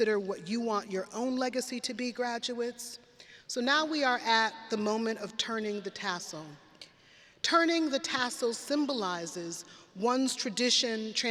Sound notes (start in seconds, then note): none